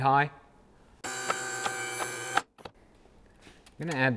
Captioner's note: buzzing